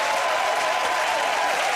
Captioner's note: cheering and applause